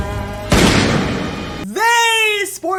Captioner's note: gunshot